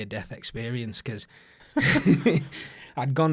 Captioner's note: both laughing